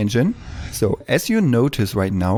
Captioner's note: whoosh